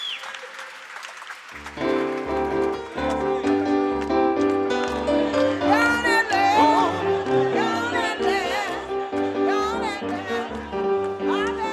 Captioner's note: applause; cheering